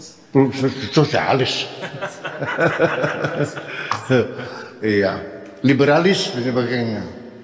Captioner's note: laughs